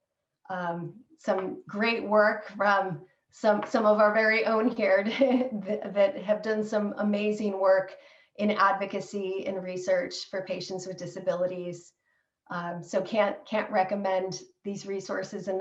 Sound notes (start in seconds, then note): 5.0 laughter